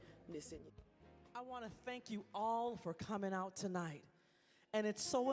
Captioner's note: voiceover